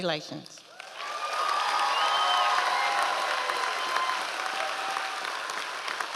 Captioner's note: members of the audience cheering